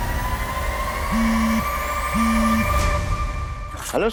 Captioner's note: phone buzzing